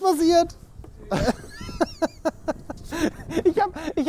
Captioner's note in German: Lachen